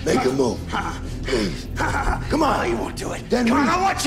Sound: laughs

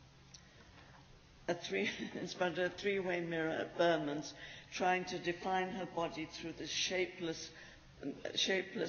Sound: laughs

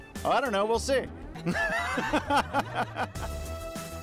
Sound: laughs

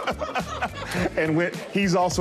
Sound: laughter

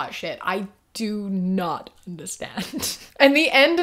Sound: laughs

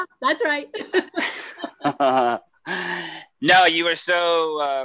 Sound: laughing

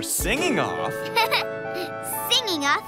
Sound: giggles

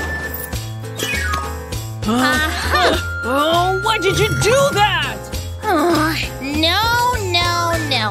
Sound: roaring

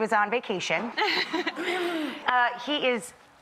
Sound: Beth laughs

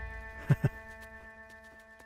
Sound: Keshav laughs

